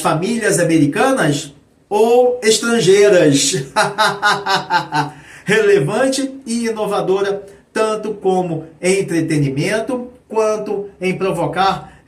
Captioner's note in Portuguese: risadas